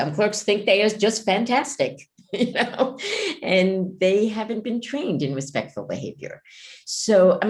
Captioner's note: laughs